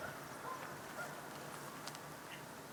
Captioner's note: birds in the distance